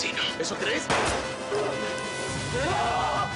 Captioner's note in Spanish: Disparo; Quejido